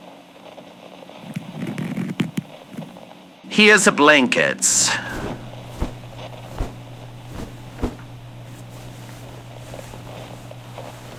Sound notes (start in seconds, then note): 4.7 cloth sound fx